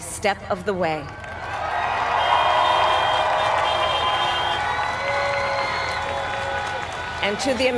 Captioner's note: applaud